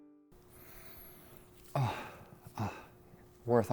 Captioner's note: sniffs